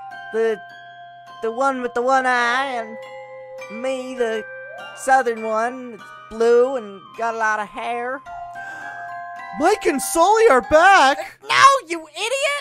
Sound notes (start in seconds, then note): 8.5 gasp